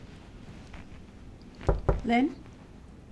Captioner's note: papers rustling; knuckles rapping